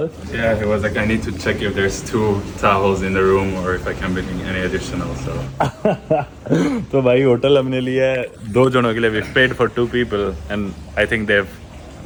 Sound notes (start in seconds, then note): 5.5 laughing